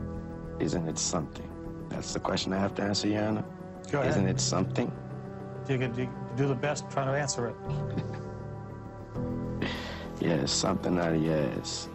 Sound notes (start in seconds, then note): 7.7 chuckles